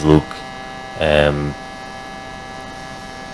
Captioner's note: buzzing